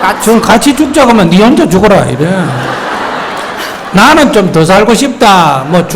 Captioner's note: audience Laughter